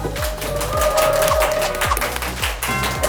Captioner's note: wipe wipe